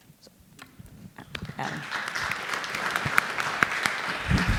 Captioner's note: applause